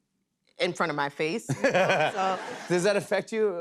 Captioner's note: laughter